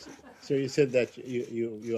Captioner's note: laughter